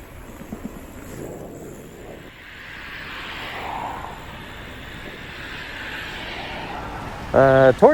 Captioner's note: cars passing